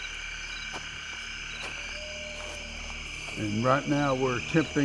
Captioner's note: insects chirping